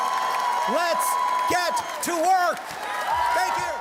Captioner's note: cheers and Applause